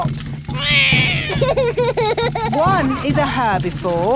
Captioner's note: laughs; roars